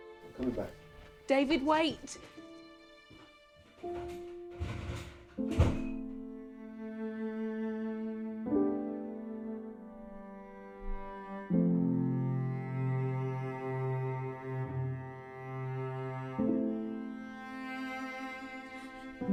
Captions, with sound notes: I'm coming back. - David, wait! (door slams) (dramatic orchestral music)